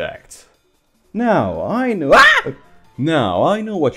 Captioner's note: screams